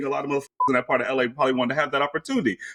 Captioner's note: beep